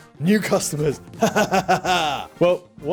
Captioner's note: chuckles